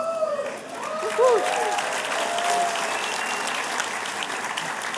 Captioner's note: applause